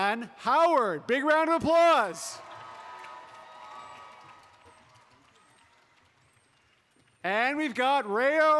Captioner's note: applause